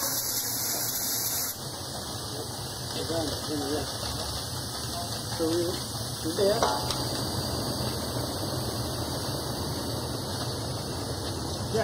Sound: rumbling and drilling

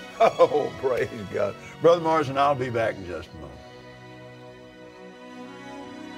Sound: both Laugh

